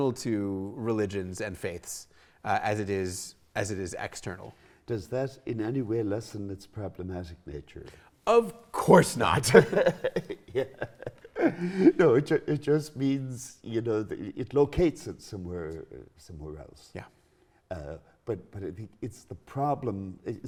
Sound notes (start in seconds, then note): 9.2 laughing together